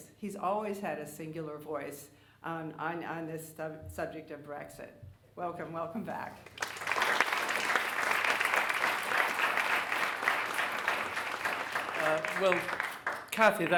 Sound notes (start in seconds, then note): 6.4 audience applauding